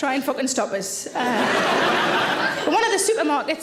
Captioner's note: audience laughing